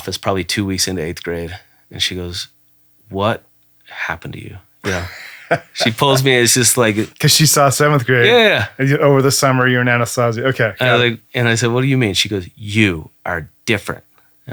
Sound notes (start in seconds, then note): 4.8 laughing